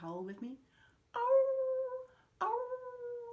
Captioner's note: howls